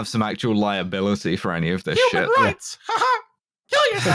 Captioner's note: Mickey voice